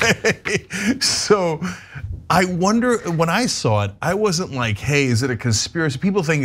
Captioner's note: laugh